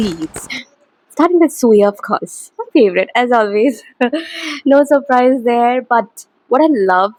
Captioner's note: hehehe